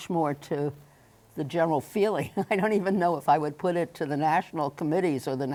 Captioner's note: chuckles